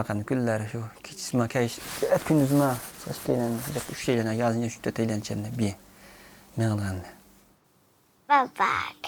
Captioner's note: pushing sand